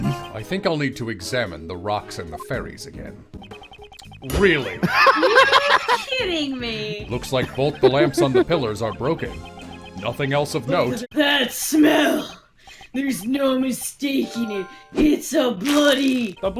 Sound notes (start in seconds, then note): 4.8 laughter